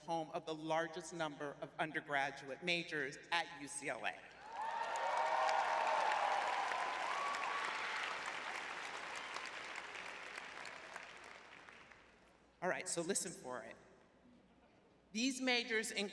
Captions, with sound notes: home of the largest number of undergraduate majors at UCLA. [cheering] [clapping] All right, so listen for it. These majors